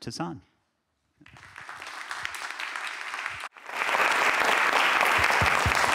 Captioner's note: applause